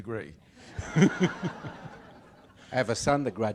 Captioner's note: audience laughs